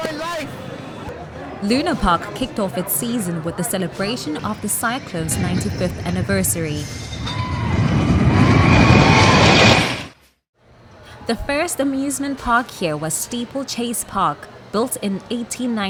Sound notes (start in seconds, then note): 8.8 roller coaster roaring